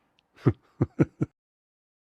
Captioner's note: laughter